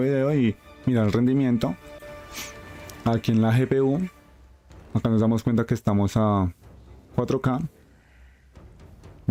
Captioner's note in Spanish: resoplido